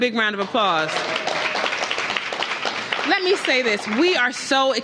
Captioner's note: applause